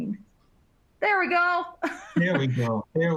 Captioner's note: laughs